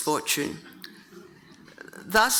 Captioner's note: audience chuckling